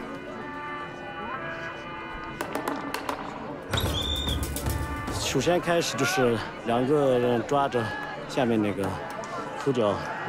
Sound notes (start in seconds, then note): 3.7 whistle blows